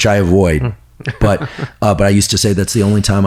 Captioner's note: laughs